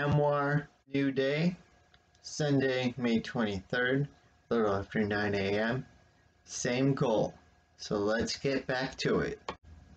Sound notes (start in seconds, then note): 8.6 click